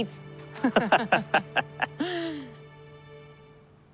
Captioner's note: laughing